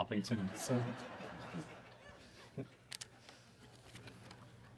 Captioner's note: audience laughing